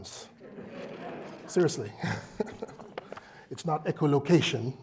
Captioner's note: laugh